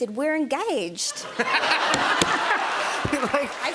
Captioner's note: laughter